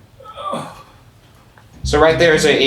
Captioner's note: groans